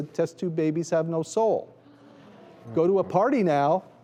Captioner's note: crowd oohs